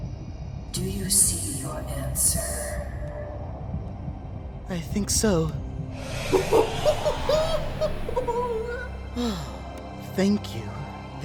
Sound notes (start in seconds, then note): 6.3 silver spoon exclaims & laughs; 9.1 sighs